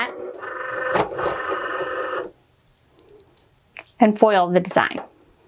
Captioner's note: chugging noise